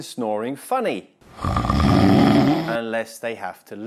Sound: snoring noise

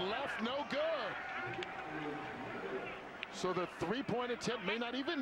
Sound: speaking on the field

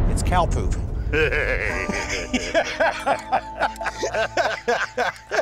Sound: laughter

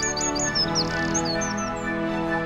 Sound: bird singing

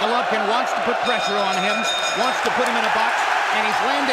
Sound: bell dings

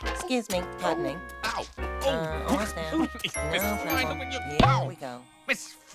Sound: groaning

